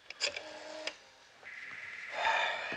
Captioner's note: line ringing